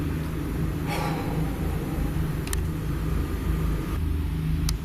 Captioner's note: sighing